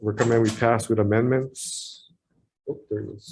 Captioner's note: door opens